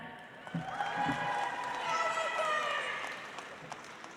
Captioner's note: audience applauds